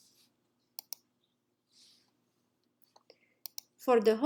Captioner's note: mouse clicking